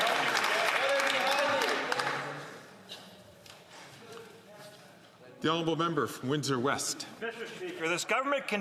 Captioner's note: some Applause